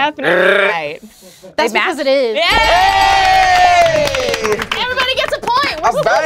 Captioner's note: audience applauds